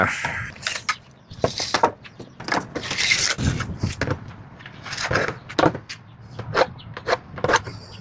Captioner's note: sexy tool sounds